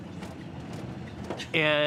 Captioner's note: birds chirping